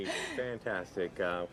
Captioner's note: laughs